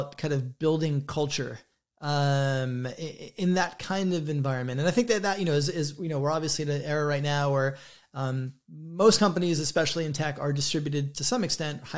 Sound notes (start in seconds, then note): none